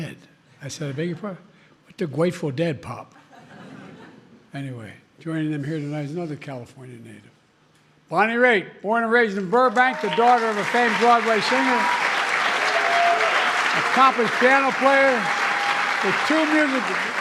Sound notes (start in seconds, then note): 3.1 laughter